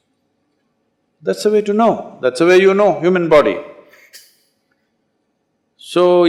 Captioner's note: laughs